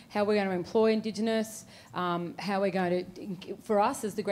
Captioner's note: none